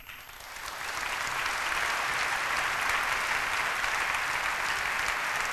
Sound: applause

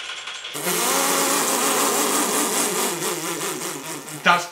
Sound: blows raspberry

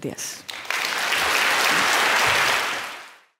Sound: applause

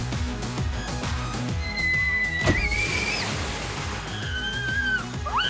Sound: screaming

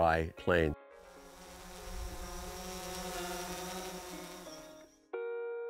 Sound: drone whirs; peaceful guitar music

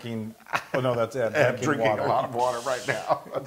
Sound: laugh

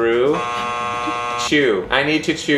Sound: buzzer buzzing

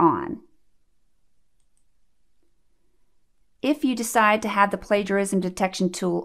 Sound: click

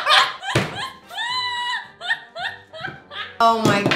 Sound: girl laughs; laughs

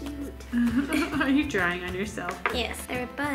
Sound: laughs

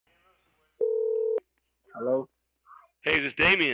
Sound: phone ringing

